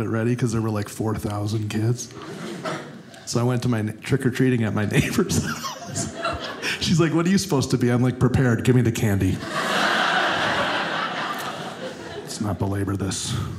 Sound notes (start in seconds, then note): 9.4 audience laughing